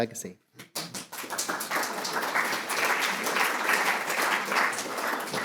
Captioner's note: audience applauding